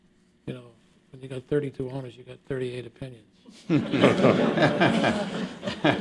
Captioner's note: laughter